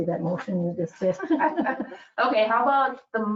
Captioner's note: laughs